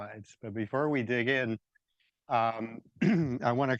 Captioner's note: clears throat